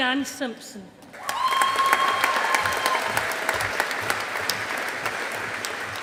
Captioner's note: audience applauding